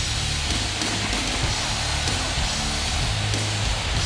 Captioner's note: crowd cheering